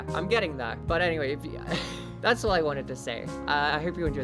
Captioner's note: exhale